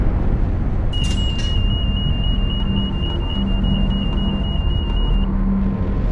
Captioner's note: alarm sounding